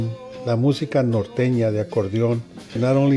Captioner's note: speaks in Spanish